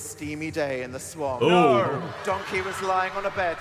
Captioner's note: audience laughing